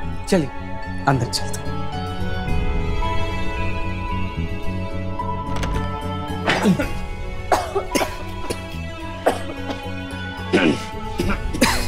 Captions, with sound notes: Let's all get inside. [door opens] [coughs] [coughs]